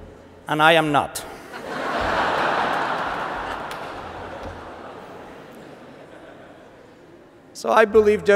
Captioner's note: laughter